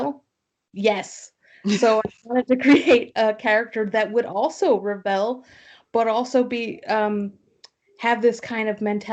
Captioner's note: laughter